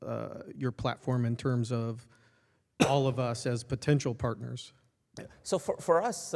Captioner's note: cough